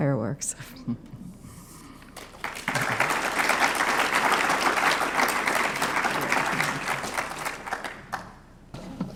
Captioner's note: applause